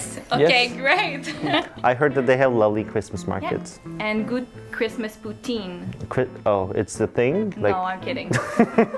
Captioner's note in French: rires